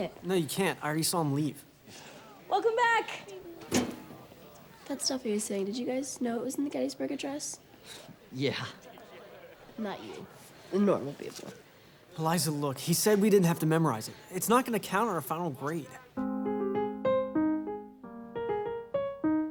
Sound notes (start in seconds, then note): 8.9 chuckles; 16.2 classical piano music